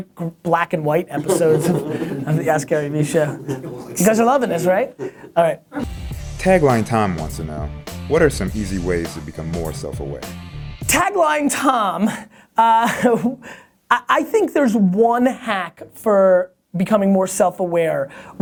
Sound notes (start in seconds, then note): 6.6 voiceover